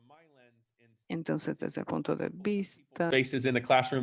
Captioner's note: speaking in foreign language